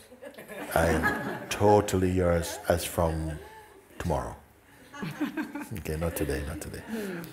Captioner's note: laughter